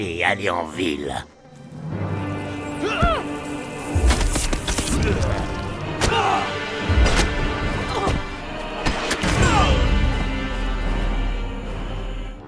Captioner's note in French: bruits de combat du jeu